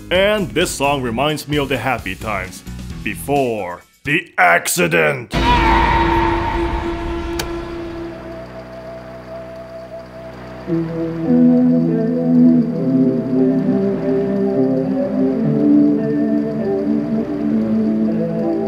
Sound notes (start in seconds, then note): 7.3 click; 7.8 hum